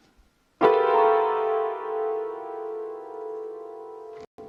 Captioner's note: keyboard keys clanging